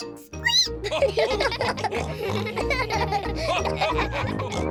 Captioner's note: all giggle; squeaks